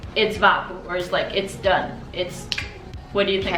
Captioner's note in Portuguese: click